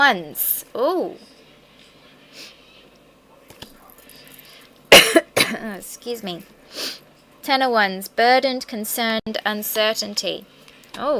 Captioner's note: cough